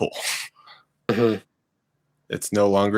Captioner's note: laughing